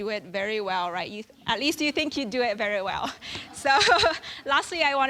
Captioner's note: laughing